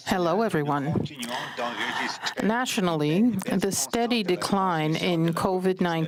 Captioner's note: speaking French